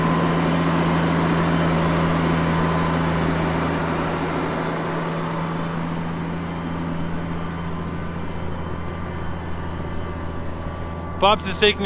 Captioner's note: tractor sound